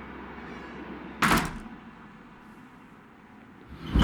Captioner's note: door closes